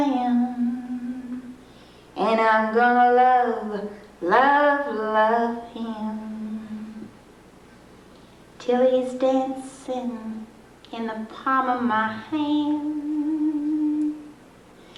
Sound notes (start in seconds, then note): none